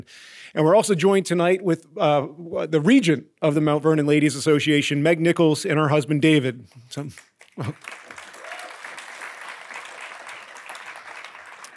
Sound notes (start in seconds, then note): 7.1 audience clapping